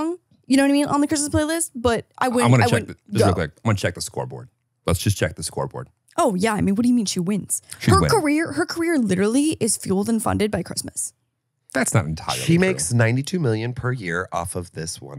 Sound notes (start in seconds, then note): 7.7 laughs